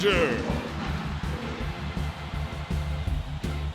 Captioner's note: roaring; crowd cheering